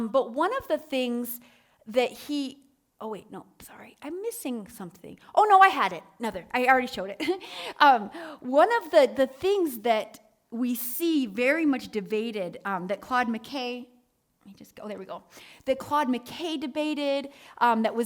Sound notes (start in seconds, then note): 7.9 chuckles